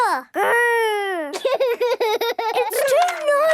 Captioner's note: George giggling; giggling